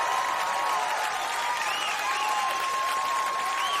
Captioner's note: audience cheering